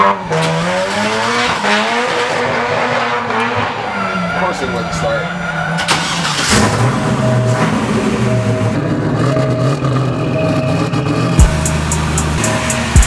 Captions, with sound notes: (starter cranking) - Course it wouldn't start. (car engine starts) (rap beat)